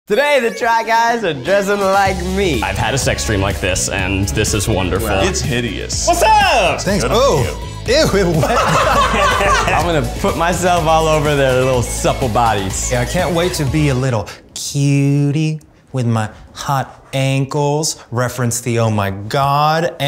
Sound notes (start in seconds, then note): 8.0 laughs